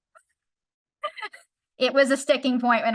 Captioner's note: laughs